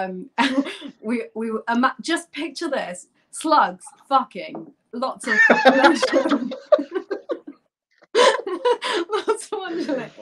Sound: laughter

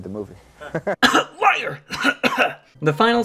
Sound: coughing

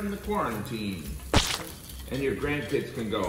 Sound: hot dog plops

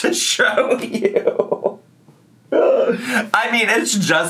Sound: laughing

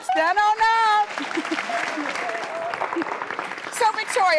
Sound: audience claps

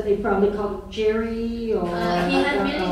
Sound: laughing

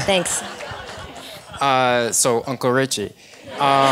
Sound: laugh

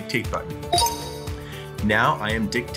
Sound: computer chimes

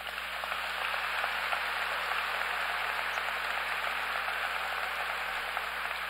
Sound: applause

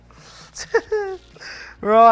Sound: laughs

